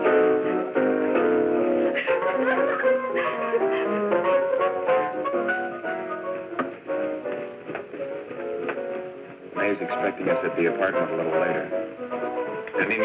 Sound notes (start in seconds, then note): 1.9 Agnes laughing